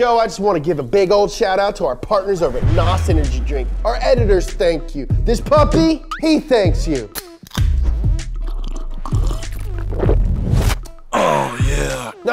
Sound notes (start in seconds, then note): 8.2 slurping